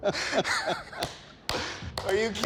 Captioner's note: applause